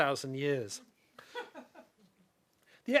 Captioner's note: chuckling